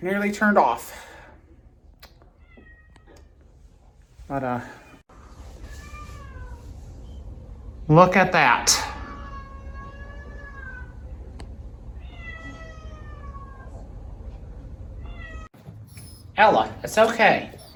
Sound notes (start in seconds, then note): 5.2 Caprice meows inside bathroom; 12.0 Caprice continues meowing; 12.9 Ella whimpers